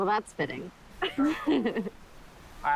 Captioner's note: chuckling